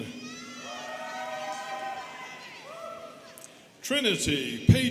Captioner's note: students cheering